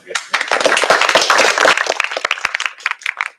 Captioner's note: applause